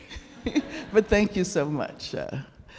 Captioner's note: Angela and audience laughing